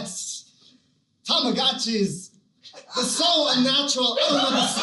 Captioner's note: Christopher Walken Voice